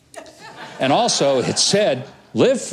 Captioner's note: laughter